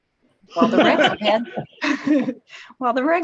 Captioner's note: laughs happily